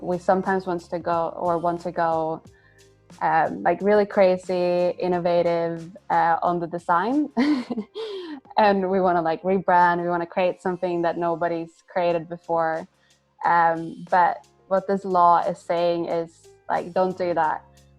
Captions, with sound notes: we sometimes wants to go, or once we go like really crazy, innovative on the design (laughs), and we wanna like rebrand, we want to create something that nobody's created before. But what this law is saying is like don't do that.